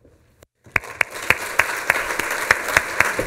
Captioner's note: applause